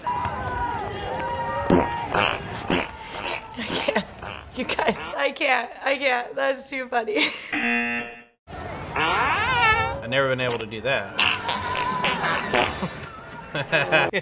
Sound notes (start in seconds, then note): 0.0 spectators cheer; 2.6 moist farting; 7.3 buzzer; 8.9 prolonged, squeaky fart; 12.1 brief, rapid farts; 12.8 laughing